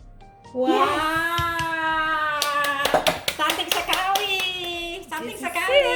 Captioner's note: clappings